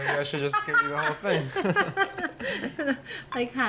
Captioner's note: both laugh